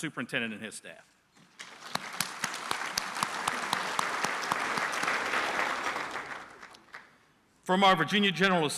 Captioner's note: applause